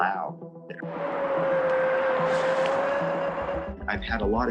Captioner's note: howling